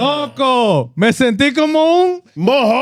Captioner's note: speaking Spanish